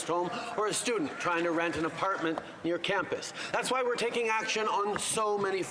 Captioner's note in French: voix de l'interprète